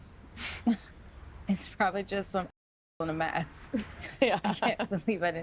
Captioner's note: laughs